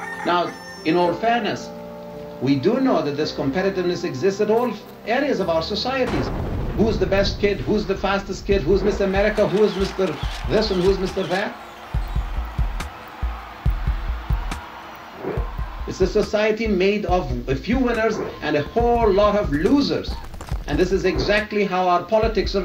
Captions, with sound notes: Now in all fairness we do know that this competitiveness existed of areas of our societies who was the best kid, who's the fastest kid, who's Miss America, who's Mr. this and who's Mr. that (crowd cheering) Is this society made of a few winners and a whole lot of losers. And this is exactly how our politics are run.